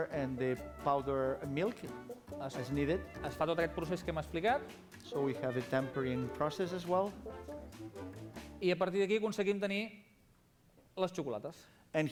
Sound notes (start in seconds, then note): 4.0 non-english speech; 9.8 non-english speech